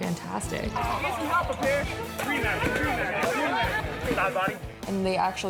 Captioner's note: yelling